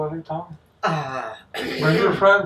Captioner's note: Mrs Brown clears her throat